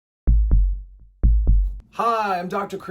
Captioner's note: heartbeat